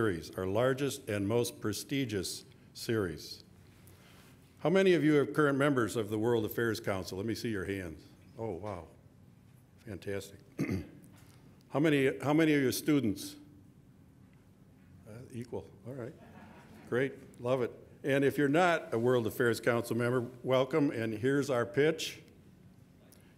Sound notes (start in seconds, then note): 16.2 audience laughing